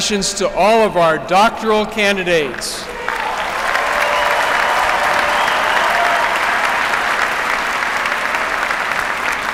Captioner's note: applause